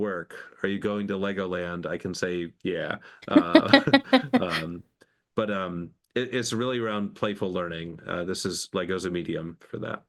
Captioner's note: laughing